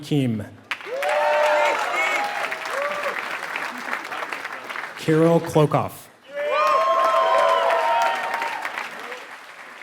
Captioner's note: applause